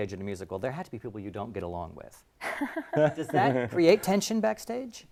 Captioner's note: laugh